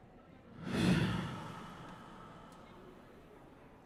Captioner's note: all exhaling